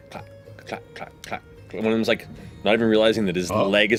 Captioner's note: rhythmic clacks